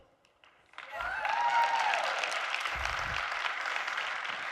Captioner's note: audience cheering